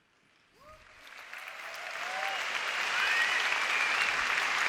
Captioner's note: audience applause and cheers